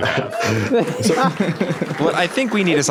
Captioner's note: laughter; cheering